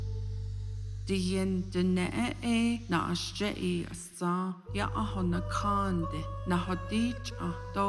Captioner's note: speaking Navajo